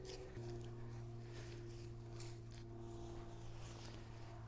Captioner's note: dirt scrapes